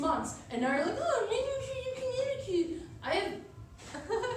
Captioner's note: mocking